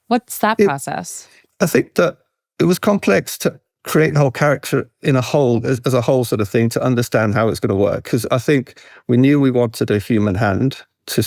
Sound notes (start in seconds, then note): none